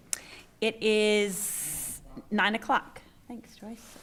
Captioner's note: speaking quietly